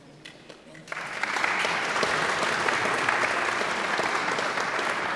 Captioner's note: audience applauds